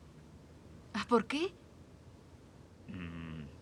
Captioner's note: sighs